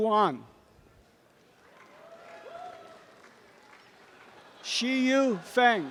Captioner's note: applause and cheering